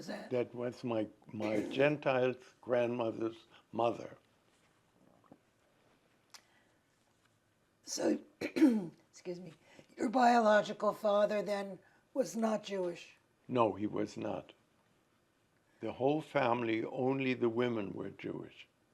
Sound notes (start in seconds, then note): 8.4 clears throat